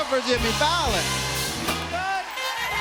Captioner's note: cheers and applause